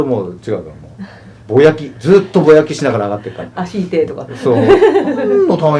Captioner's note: laugh